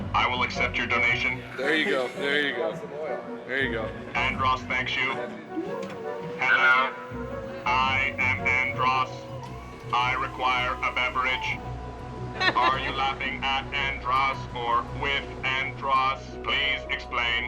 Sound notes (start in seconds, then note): 11.8 laughing